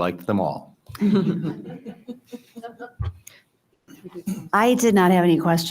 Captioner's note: all chuckling